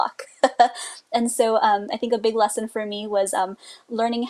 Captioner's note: laughs